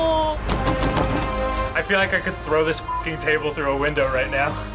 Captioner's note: bangs table